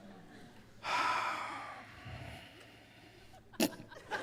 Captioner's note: Trixie sighs; Trixie snickers